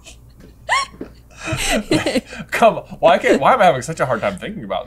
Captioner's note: laughter